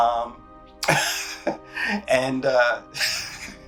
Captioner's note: laughs